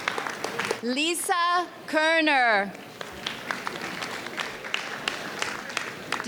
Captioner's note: audience applauds; audience applauds